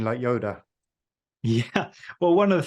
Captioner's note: laughs